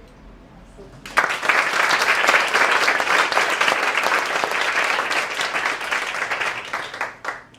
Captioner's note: applause